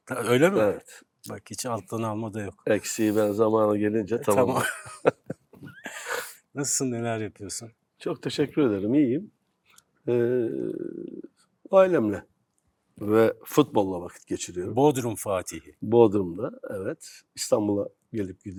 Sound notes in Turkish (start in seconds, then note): 4.2 kahkaha